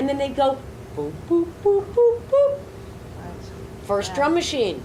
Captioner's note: imitates rhythmic synth octave